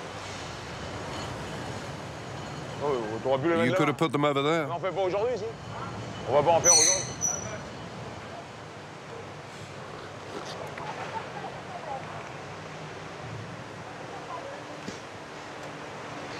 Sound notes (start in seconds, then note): 3.2 speaking in foreign language; 5.7 speaking in foreign language; 6.6 pulley squeaking; 10.9 speaking in foreign language